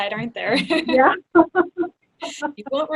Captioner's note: laughs